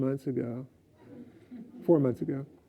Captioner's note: laughs